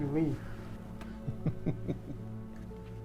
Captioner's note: Ramesses laughs